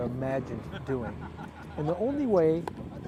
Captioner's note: laughter